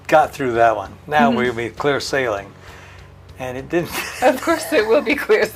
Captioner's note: laughs